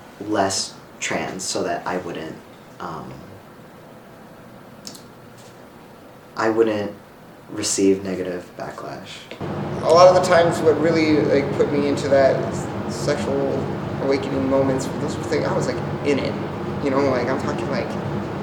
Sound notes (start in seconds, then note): none